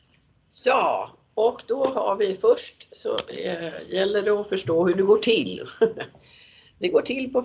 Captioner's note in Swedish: skrattar